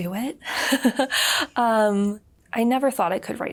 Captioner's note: laughs